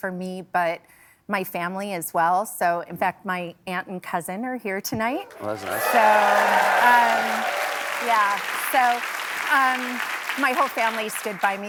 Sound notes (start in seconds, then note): 7.9 applause